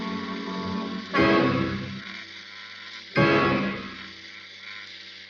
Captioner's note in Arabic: تُصدر الدمية صوتًا مخيفًا